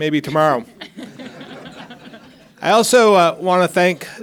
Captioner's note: members of the audience laughing